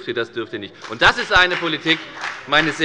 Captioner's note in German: Beifall bei der FDP